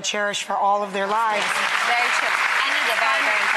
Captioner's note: clapping